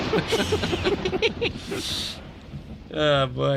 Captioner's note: lightning strikes; laughter